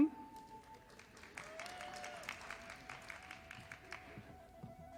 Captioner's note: audience applauding